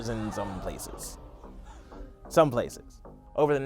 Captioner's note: crowd gasping